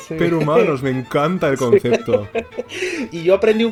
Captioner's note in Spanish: risas